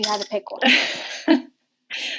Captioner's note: laughing